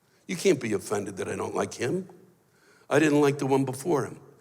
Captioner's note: none